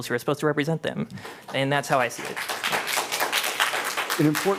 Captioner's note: applause